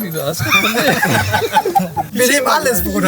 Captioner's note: laughter